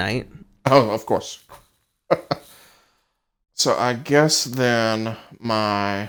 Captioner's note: laughs